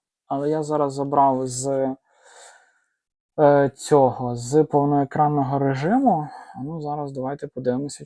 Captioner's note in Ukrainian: сопіння